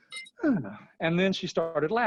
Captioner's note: sighs